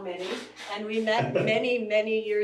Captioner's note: laughs